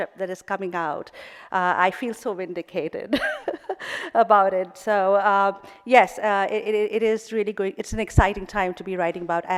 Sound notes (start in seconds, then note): 3.3 laughing